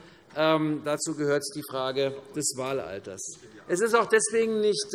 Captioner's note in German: none